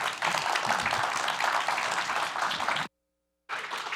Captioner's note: applause